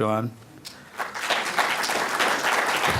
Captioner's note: applause